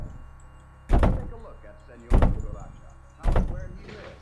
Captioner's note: head thuds